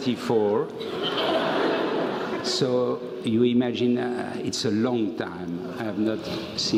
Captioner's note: laugh